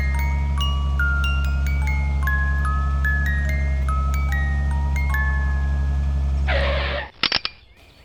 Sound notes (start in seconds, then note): 6.4 skid; 7.2 click